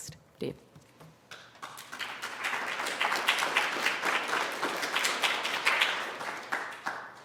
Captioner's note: applause